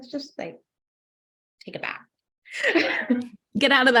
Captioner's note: laughs